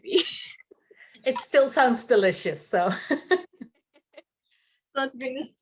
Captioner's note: laughs